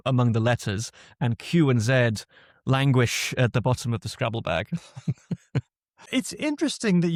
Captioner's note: laughs